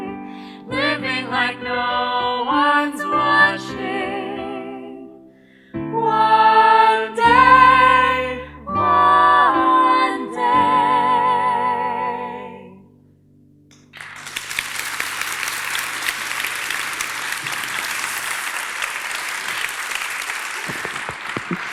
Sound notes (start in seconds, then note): 13.9 audience applause